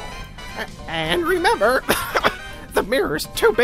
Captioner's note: cough